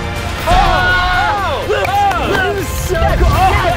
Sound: cheering

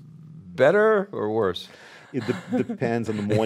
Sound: laughs

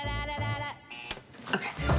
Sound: alarm buzzes

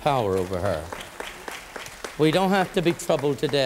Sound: applause

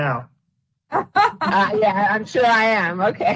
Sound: laughter

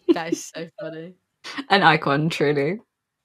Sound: laughs

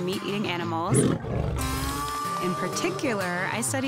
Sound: roaring

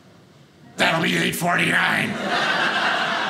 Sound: cranky voice; audience laughing

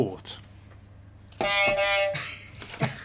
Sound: beep beep

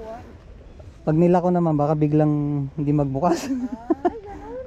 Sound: laugh

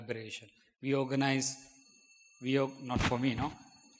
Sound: bell ringing

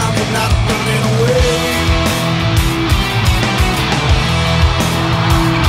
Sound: audience cheering

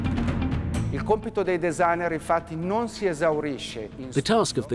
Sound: speaks in foreign language

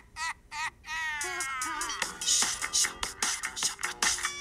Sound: creepy laughter; peppy pop music

